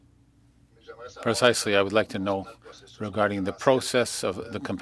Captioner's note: speaking French